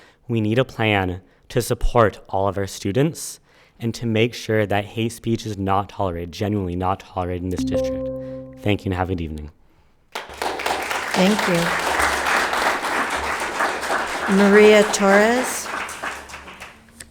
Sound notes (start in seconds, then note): 7.6 PA system beeping; 10.1 spectators applauding